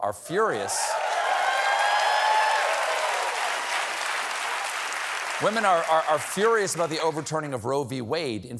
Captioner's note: cheers and applause